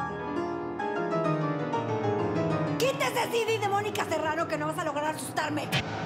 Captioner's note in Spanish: elena grita con rabia